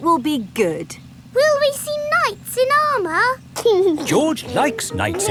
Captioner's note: giggling